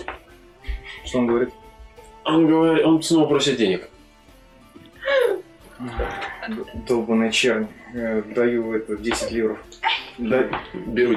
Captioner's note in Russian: вздыхает